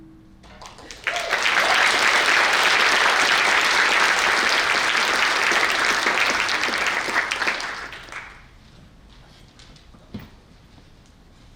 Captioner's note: applause